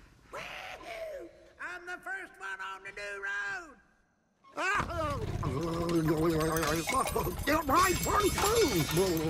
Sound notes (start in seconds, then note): 5.3 grumbling